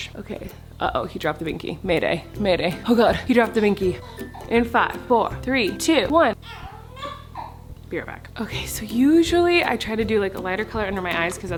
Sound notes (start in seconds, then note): 6.4 baby cries